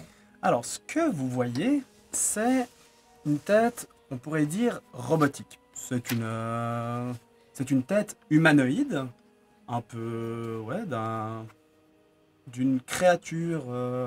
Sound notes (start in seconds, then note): none